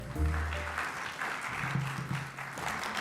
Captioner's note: applause